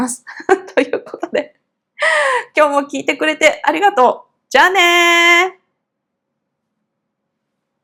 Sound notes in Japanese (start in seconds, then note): 0.8 笑い; 2.0 息をのむ音